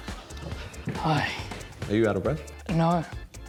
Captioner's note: sighs